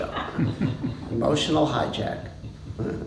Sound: laughter

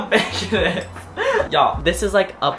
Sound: laughs

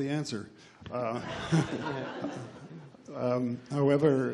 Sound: laughs

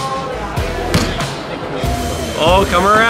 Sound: thump

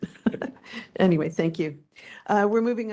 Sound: laughing

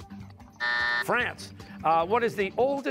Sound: buzzer

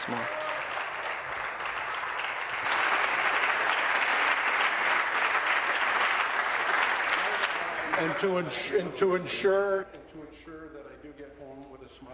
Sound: applause

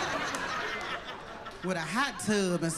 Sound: laughter

